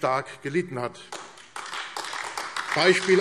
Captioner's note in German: Beifall AfD